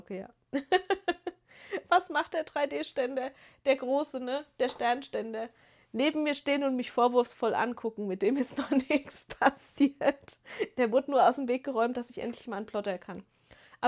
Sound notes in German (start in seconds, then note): 0.5 gelächter; 8.5 gelächter